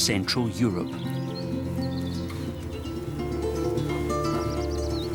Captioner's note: birds twittering